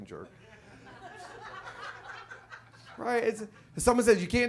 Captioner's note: audience laughs